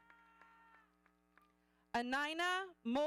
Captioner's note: audience cheering